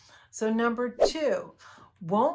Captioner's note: air whooshes